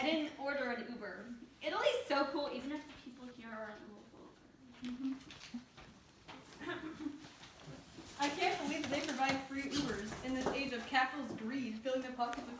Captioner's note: nervous laugh